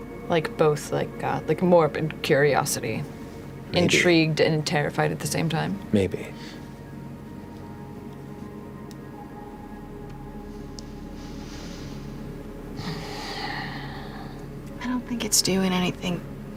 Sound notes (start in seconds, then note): 12.7 sighs